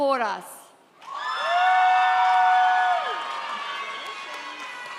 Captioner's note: audience cheers